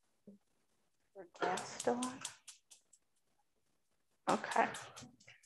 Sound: clicking

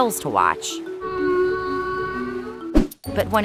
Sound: bellowing

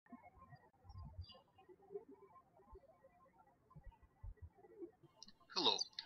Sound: birds chirping

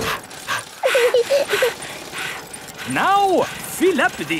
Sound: daddy pig panting; mummy pig panting; peppa chuckles; chuckles

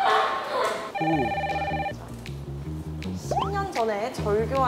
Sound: Koo Kyo-hwan calling

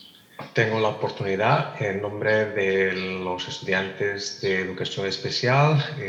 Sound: translator speaking in Spanish

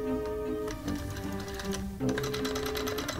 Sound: dial tone

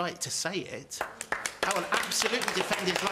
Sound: audience applauds

